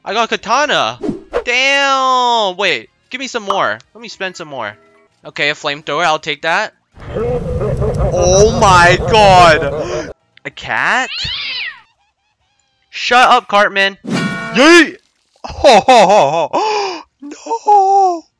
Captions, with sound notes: I got a katana! DAMNNNNNN wait... Gimme some more, Lemme spend some more Okay a flamethrower I'll take that OHHH MY GOD A cat? *MEOWWWW* SHUT UP CARTMAN YEEEEET HO HO HO HO *gasp* nooooo